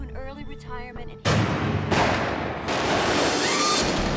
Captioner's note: gun shots